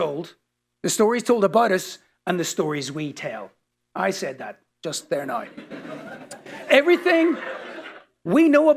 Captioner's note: laughter